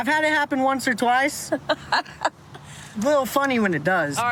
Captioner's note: laughs